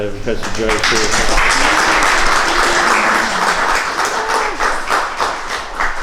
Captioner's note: applause